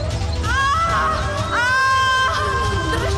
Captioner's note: groans